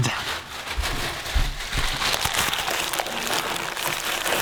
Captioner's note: paper crumpling